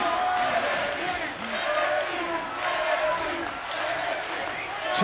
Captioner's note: crowd chants "NXT"